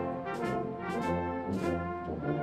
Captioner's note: none